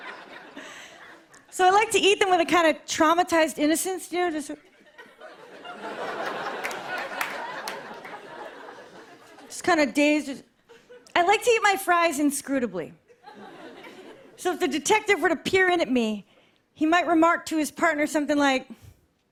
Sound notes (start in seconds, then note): 4.6 laughter